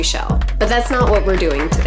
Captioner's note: applause